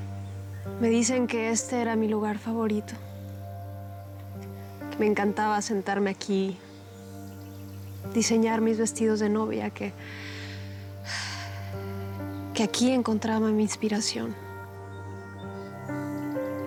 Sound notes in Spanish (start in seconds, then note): 12.4 suspiros